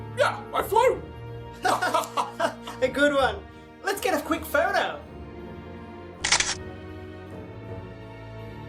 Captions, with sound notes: Yeah, I flew! Haha! Good one! Let's get a quick photo. [Camera flashes]